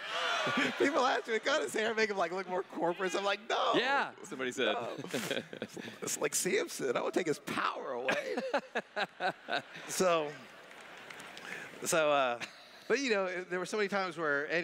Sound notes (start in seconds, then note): 4.8 laughs; 8.0 laughs